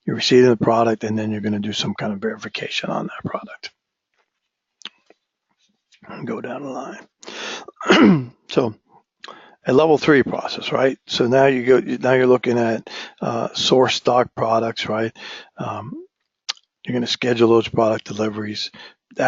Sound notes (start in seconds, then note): 7.7 cough